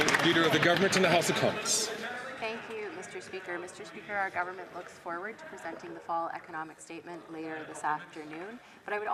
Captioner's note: some Applause